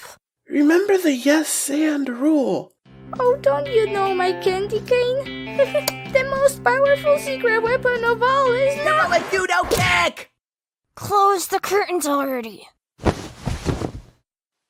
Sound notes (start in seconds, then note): 10.8 through gritted teeth